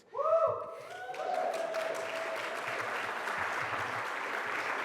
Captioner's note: audience cheers